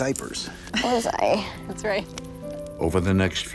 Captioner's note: laughs